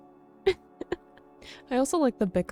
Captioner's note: chuckles